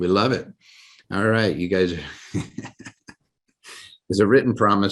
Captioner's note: laughs